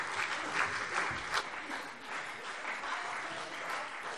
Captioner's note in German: Beifall CDU